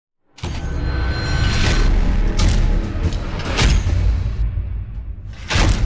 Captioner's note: intense music; metallic clicking